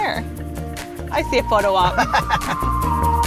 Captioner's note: laughing